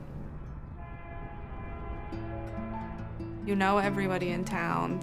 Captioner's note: train horn blowing